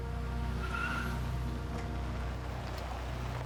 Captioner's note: tires screech